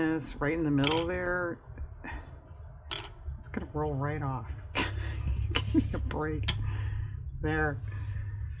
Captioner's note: laughs